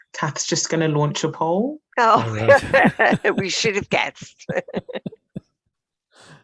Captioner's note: laughs